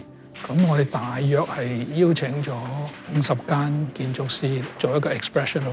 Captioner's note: rusting of paper, background chatter